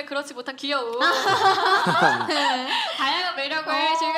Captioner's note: laughter